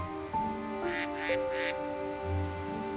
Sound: ducks quacking

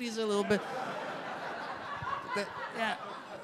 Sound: audience laugh

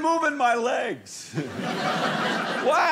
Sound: audience laughing

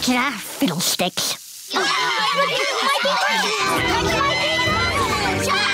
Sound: clamoring; screaming

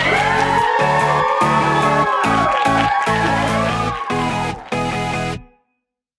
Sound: crowd cheering

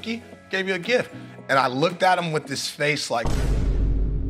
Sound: boom

